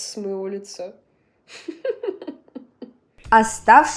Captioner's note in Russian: смех